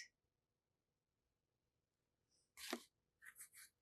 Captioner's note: pauses 6 seconds